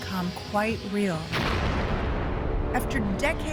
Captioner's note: explosion roars